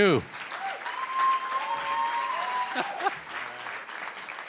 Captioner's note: cheering & Applause